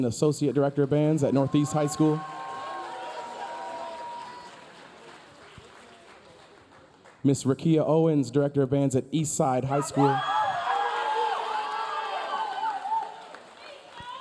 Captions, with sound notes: associate director of bands at Northeast High School. (audience cheering) (audience applauding) Ms. Riqia Owens, director of bands at Eastside High School. (audience cheering) (audience applauding)